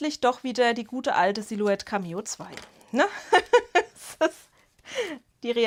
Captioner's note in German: Gelächter